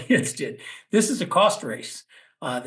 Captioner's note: laugh